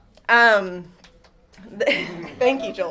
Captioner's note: chuckle